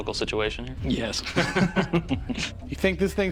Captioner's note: laughter